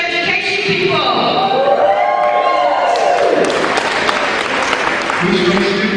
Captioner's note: cheering